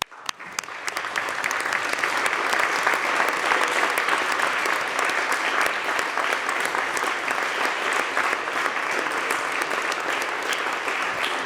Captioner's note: applause